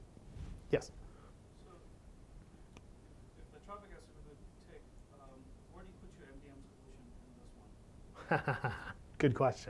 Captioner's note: laugh